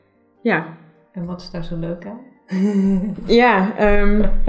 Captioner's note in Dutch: Lacht